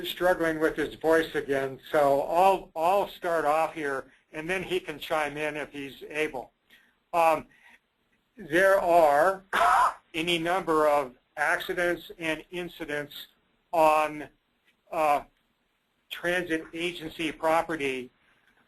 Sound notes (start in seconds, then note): 9.5 coughs